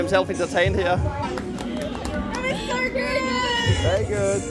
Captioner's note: clapping hands